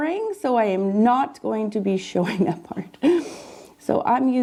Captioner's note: laughs